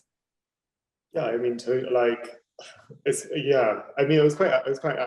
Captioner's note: chuckling